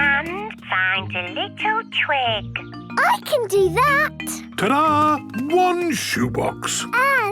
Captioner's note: none